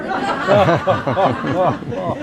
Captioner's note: laughing